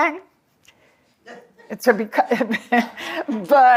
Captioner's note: laughter